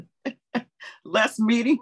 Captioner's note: laughter